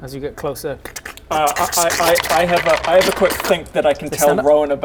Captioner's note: krrshk-krkrckskckskhk-krskchkk